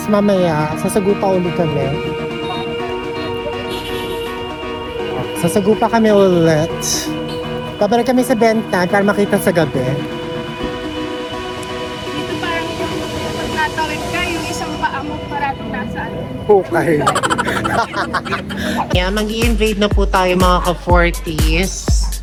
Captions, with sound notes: Then. later will try it again Well will try again We will go back to Ben Thanh so we can see it at night. Let's go here When you cross, one of your feet is already in the grave [Laughing] [Laughing SFX] There, we are ready to invade my fellow 40s.